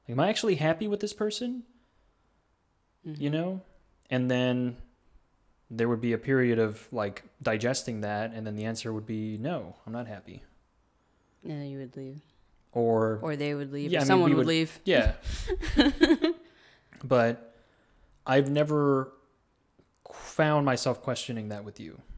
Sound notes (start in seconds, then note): 15.1 laughs